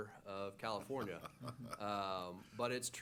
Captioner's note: laughs